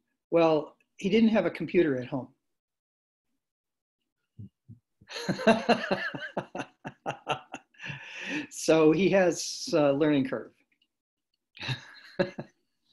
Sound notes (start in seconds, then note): 5.1 laughter